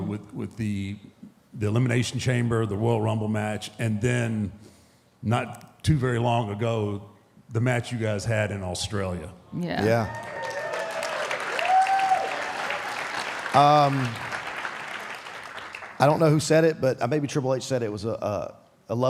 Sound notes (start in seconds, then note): 9.8 audience cheering; 9.8 audience applauding